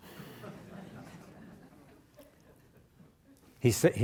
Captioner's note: audience laughing